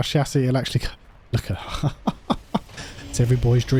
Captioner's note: laughs